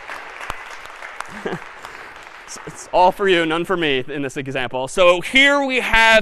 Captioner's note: laughs